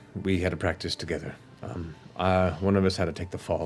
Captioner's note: none